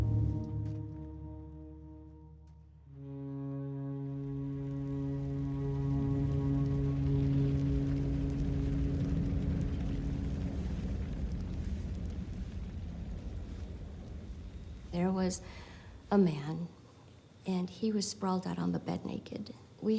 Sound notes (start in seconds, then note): 4.9 flames crackling; 4.9 wing howling